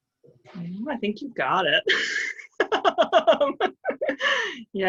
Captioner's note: laughs